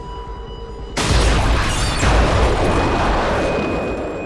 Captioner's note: loud explosion